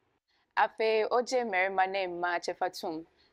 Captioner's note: speaking twi